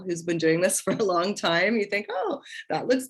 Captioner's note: laughter